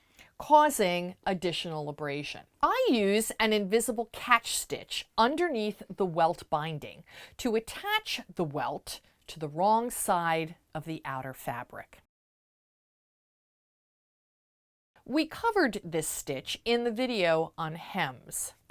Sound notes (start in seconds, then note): 12.0 no Sound Present